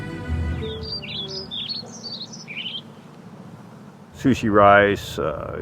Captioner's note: birds chirping